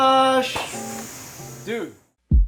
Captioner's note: Megan exhales heavily